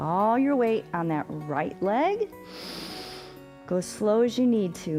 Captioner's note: inhales